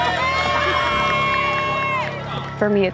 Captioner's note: cheering